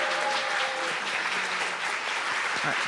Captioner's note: applause